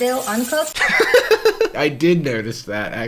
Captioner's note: laughing